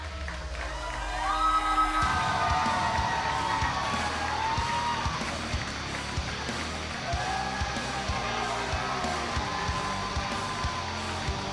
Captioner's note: cheers and applause